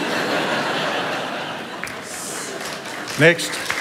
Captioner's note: laughter